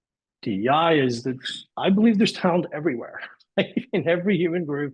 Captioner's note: laughs